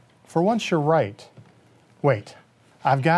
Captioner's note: none